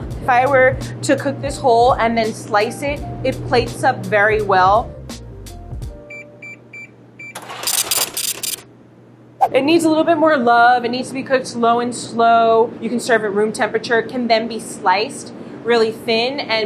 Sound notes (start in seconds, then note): 5.6 scale beeps and brrhs